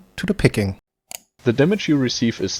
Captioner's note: click